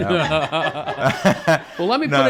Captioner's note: group laughing